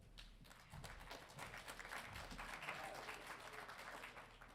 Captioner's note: audience applauding